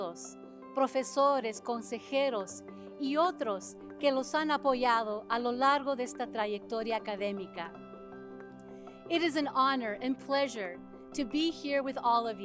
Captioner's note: speaking spanish